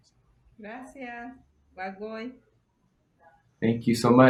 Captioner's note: speaking foreign language